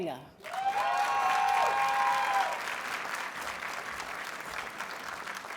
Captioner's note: audience cheers and applauds